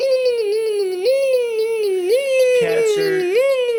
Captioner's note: baby mumbling